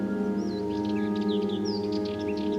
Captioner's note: birdsong